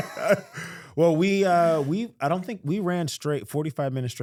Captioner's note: laughing